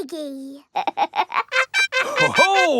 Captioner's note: snorts; laughs